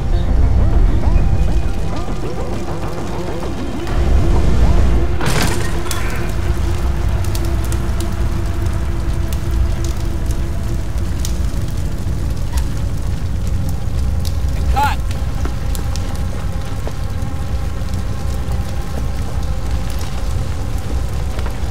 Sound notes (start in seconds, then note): 0.1 dramatic music; 7.7 fire sizzling; 19.0 anxious music